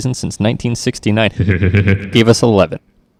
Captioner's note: pleasured moans